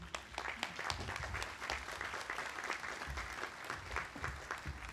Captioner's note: audience applauding